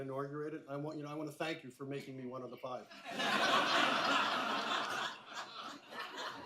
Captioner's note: laughter